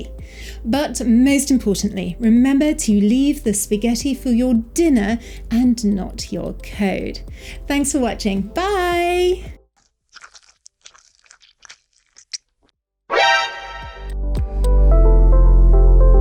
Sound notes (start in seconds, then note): 9.7 disturbing, animalistic munching sounds; 13.2 Metal Gear Solid Alert Sound